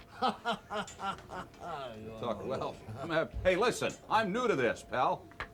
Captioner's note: laugh